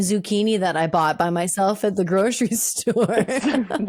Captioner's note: laughing